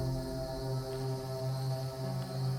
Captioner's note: dramatic music; insects chirping; dramatic music